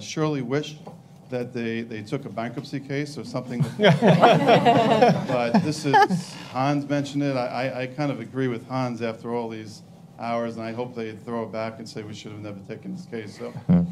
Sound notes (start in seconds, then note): 3.7 panelists laugh